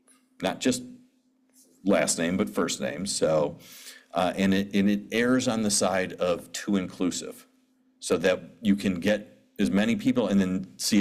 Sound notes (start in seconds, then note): none